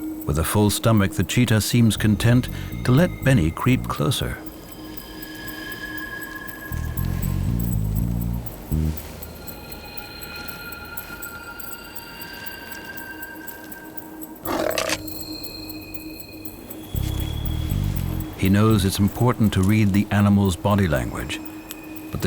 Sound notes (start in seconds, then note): 14.4 cheetah growls, camera clicks